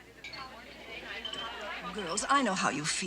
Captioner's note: chattering